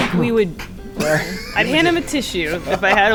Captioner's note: sneezing; wheezing